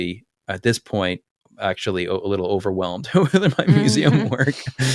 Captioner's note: laugh